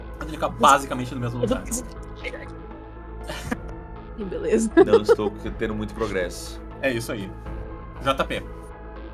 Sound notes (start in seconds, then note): 4.5 laughs